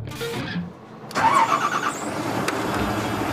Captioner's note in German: Motorengeräusche